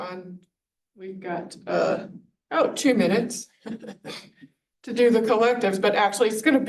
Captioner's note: laughs